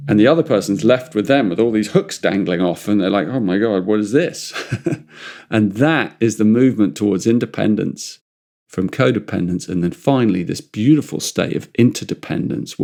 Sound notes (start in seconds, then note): 4.4 laughs